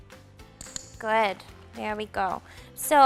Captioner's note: clicker clicks